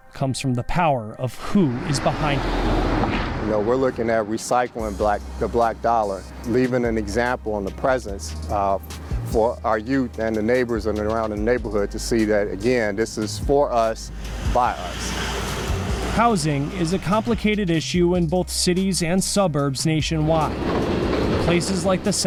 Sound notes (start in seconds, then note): 1.4 bus whizzing; 14.0 bus whizzing; 20.2 train whizzing